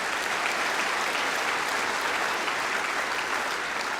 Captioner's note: applause